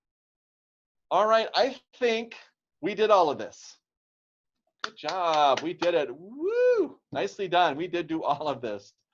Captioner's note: clapping